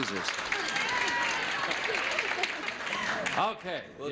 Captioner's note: audience cheers